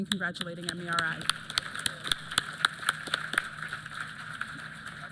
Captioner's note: applause